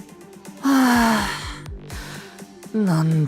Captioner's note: sigh